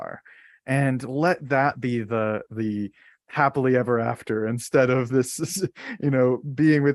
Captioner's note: chuckles